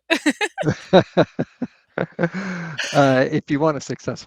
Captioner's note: laughter